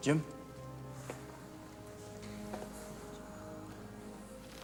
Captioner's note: footstep